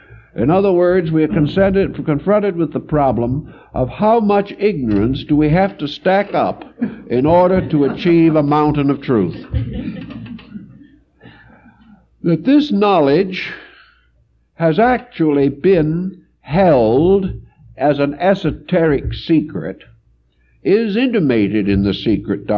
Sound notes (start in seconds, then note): 9.8 laugh